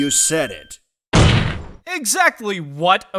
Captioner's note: slam